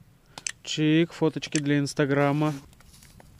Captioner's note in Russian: чик